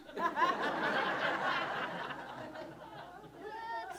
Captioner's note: audience laughs